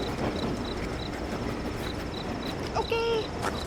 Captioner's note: crickets chirping